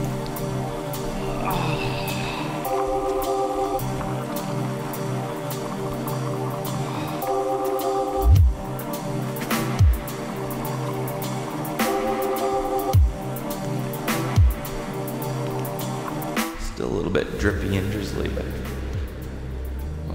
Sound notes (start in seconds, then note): 1.2 sighs